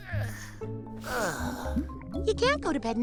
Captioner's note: sighs